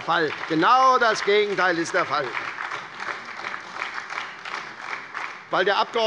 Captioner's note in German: Lebhafter Beifall bei der SPD